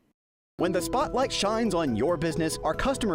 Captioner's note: voice-over